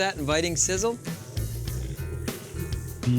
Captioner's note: sizzling